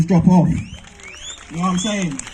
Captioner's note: crowd claps